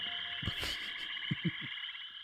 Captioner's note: laughs